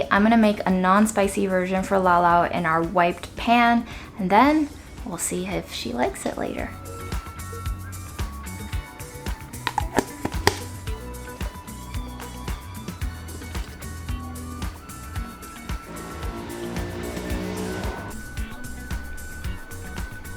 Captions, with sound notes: I'm gonna make a non-spicy version for Lao Lao in our wiped pan, and then we'll see if she likes it later. (upbeat music) (lid scraping)